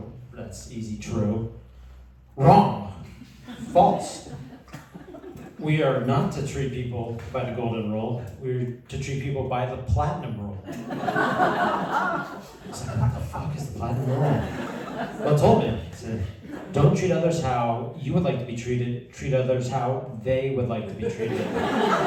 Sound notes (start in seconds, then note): 10.6 laughter; 21.2 laughter